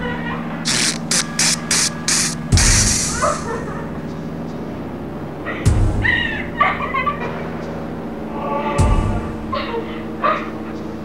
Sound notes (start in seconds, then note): 0.6 smoke puffs out; 3.2 Rachel sobbing